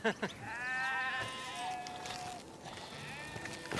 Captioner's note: bleating